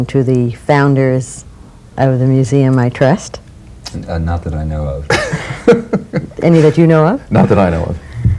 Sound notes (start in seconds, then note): 5.1 laughs